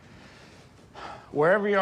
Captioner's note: sighs